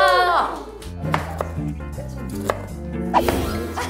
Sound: chopping

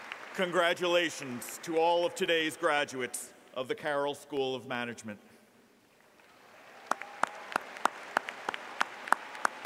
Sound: applause

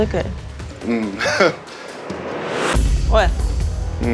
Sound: chuckle

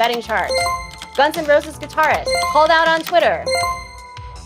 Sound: chiming; chiming

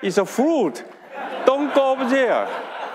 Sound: audience laughing

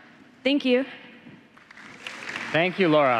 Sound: applause

